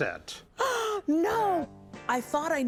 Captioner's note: gasp